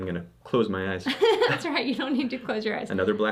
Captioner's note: laughs